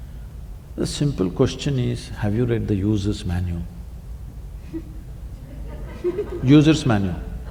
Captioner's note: laughter